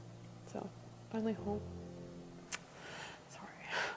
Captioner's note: exhales